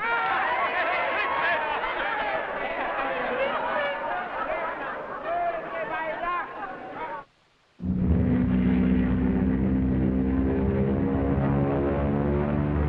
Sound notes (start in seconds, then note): 0.7 crowd laughing; 7.8 plane droning